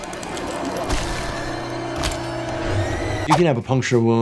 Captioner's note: eerie music; Huggy Wuggy thudding